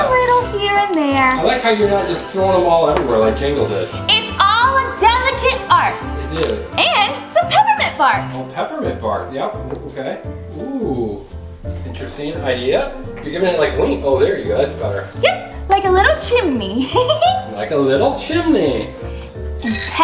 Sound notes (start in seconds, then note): 16.7 giggles